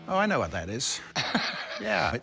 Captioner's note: laughs